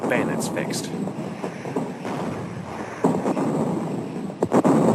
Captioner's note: bombs exploding